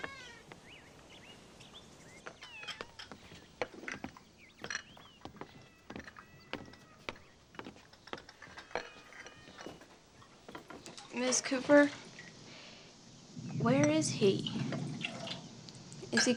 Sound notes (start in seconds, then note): 0.0 door creaks; 6.5 cats mewing; 13.0 thunder rumbling